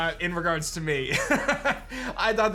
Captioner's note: laughs